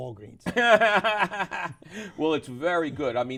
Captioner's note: laughs